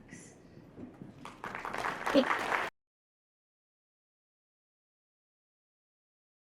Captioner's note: applause